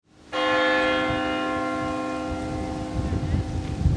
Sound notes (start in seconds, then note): 0.3 bell tolls